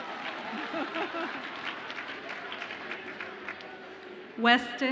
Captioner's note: participant laughs